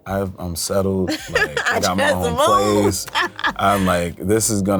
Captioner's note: laughs